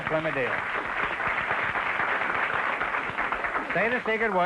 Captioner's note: applause